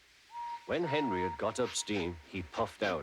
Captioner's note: tooting